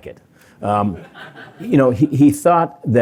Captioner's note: laughter